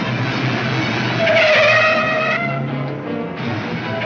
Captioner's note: tires squealing